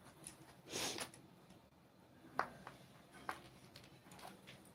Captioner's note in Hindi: नाक से की जाने वाली आवाज़